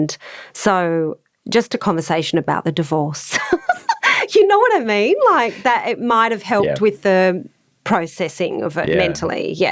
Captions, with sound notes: And so just a conversation about the divorce. (laughing) You know what I mean? It might have helped with the processing of it mentally.